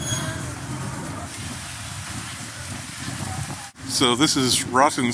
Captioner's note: water rushing